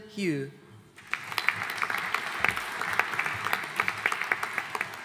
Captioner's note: audience applauding